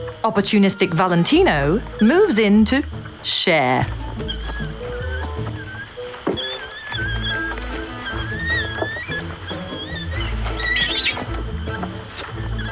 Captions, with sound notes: Opportunistic Valentino moves in to share. (upbeat quirky music) (orangutans squealing)